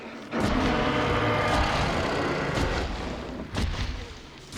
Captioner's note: grunting; growling